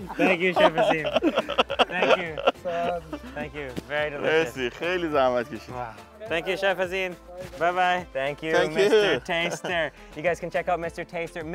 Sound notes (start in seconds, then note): 4.6 speaking in foreign language